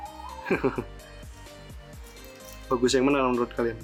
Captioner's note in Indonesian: tertawa